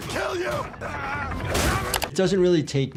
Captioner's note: grunting